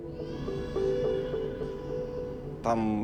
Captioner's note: infants wailing faintly